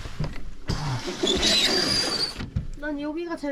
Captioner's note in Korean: 드르륵